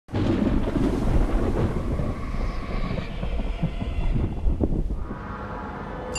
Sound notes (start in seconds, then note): 0.1 thunder booming